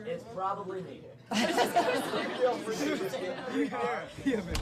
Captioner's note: laughing; chattering